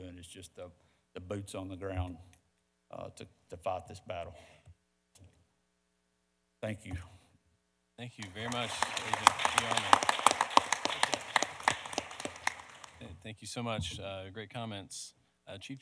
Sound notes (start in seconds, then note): 8.2 audience applauding; 10.9 panelists applauding